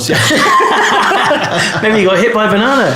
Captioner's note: laughing